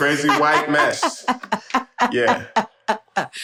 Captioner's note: laughs